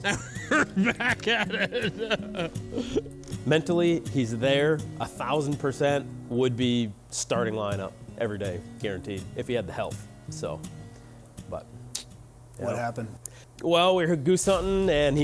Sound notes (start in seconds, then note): 0.0 laughing; 11.7 tongue clicks